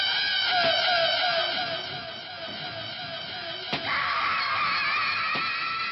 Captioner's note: knife thumping; person screaming